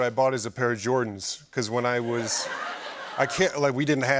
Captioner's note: laughter